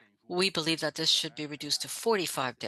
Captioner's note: speaking French